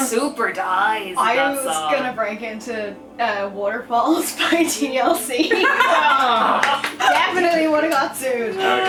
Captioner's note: laughter